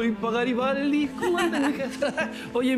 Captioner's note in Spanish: Risas